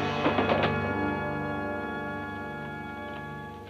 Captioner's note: man thuds